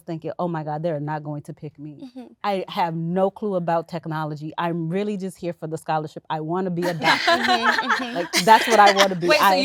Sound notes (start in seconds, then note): 6.8 women laughing